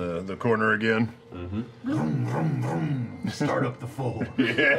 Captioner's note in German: Motorheulen